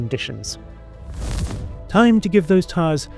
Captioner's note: transition whooshes